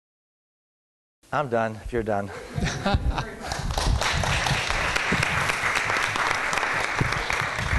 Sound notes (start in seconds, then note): 2.5 laughter; 3.5 applause